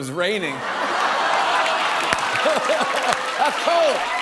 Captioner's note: laughter and applause